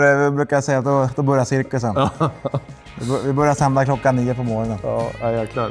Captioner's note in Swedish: skratt